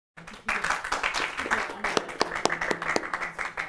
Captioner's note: applause